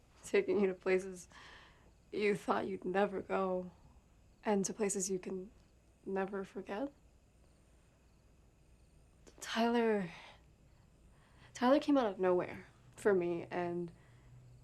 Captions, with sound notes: Taking you to places you thought you'd never go, and to places you can never forget. (crickets chirping) Tyler, Tyler came out of nowhere for me and,